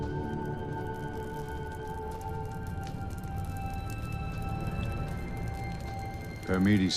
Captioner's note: fire crackling; suspenseful music